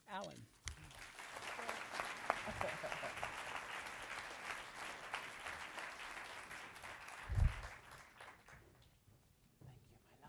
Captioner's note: applause